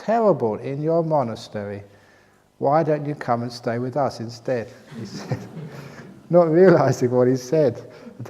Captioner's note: laughter